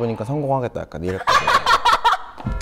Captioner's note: the biggest laughter of the day lol